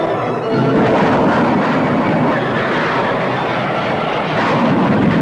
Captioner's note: plane engines roaring